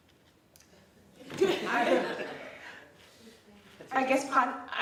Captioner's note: laughing